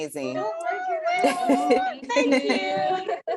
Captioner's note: laughs